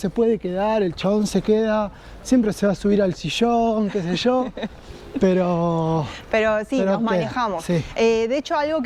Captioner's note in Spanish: risas